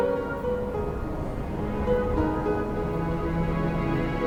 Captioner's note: wind blows